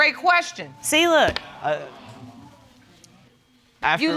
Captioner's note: audience coos; stutters